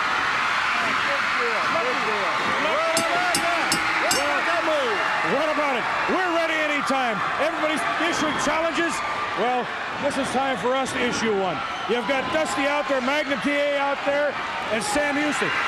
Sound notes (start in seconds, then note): 0.3 crowd cheering; 2.9 bell ringing